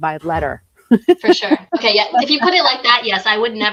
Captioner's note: laughs